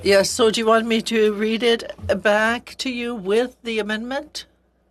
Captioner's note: speaking French